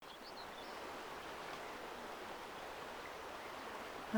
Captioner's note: water rushing